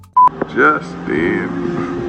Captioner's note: upbeat music; beep